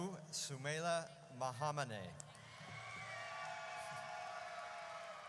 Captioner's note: audience cheers